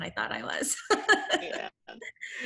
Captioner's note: laughs